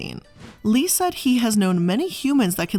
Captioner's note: air whooshing